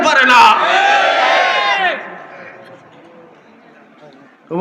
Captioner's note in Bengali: হর্ষধ্বনি